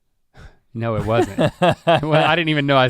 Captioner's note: laughs